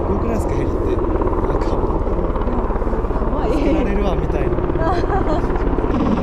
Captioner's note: laughs